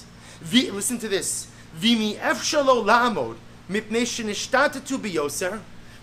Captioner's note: Hebrew